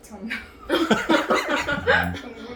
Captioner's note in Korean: ㅎㅎㅎ, ㅎㅎㅎ